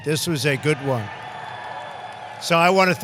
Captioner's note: applause